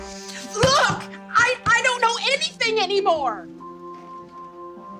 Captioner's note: yells